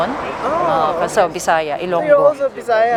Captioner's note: speaking in foreign language